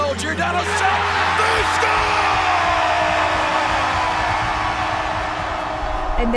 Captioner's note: audience cheers